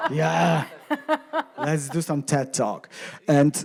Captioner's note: laughing